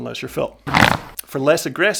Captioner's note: bike tires makes unusual sound